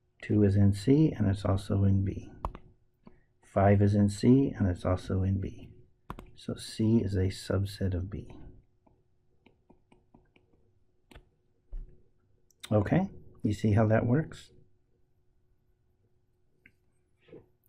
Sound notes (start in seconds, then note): 9.4 tapping Sounds